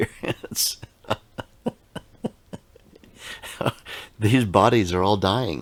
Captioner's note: laughing